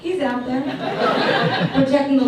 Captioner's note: audience laughs